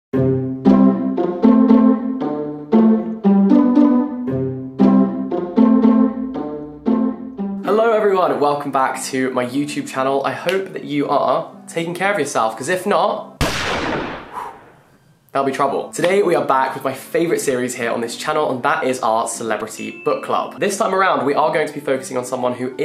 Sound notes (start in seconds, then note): 0.1 jaunty music; 13.4 gun bangs; 14.2 exhales